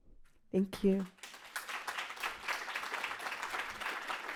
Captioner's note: crowd clapping